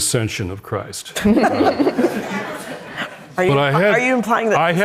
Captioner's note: all laughing